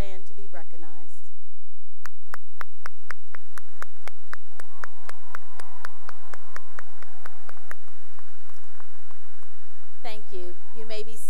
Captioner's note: cheering and applause